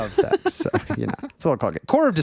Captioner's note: laughing